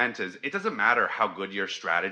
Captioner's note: none